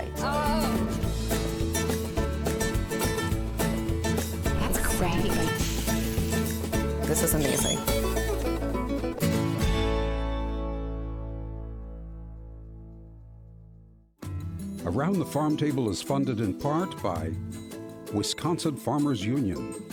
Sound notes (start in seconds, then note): 2.0 upbeat guitar music; 5.9 meat sizzling